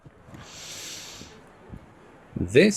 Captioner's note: inhale